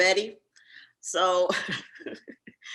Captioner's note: giggles